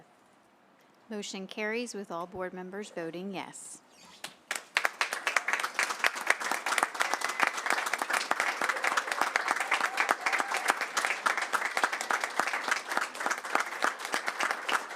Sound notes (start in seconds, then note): 4.4 applause